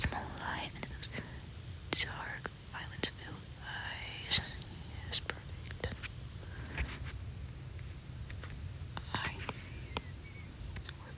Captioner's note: clicking